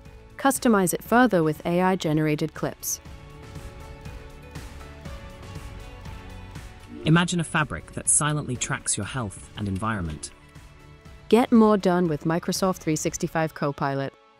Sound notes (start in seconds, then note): 7.0 ai generated voice